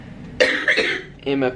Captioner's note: coughing